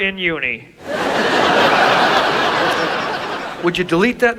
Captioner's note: audience laughs